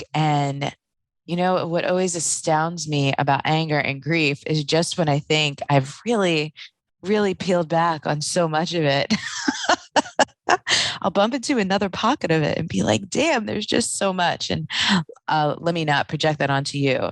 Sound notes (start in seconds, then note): 9.2 laughing